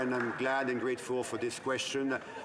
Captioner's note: some Applause